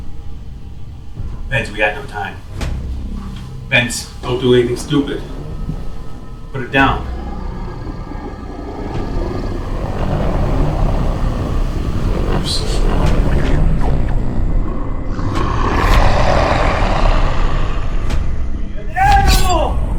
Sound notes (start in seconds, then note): 7.5 intense growling; 9.9 dramatic music